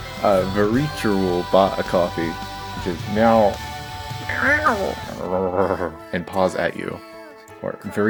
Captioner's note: mrows